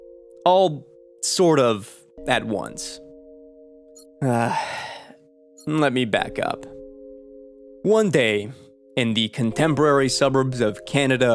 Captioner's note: sigh